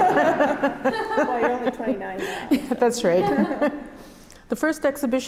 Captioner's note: both laugh; laughs